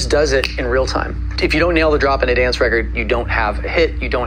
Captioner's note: snapping fingers